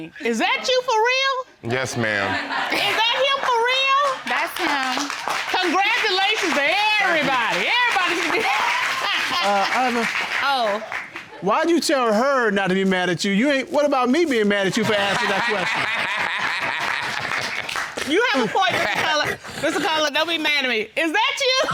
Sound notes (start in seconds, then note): 4.8 audience applauding; 9.0 chuckles; 14.7 all laugh